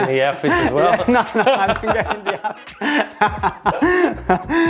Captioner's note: laughs